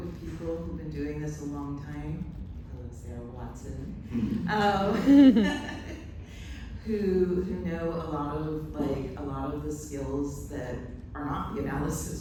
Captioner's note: laughter